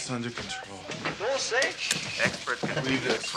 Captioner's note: speaking Spanish